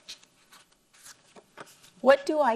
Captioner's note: paper rustles